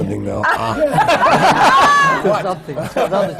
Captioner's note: laughter